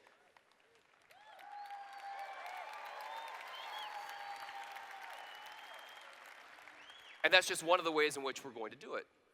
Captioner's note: cheers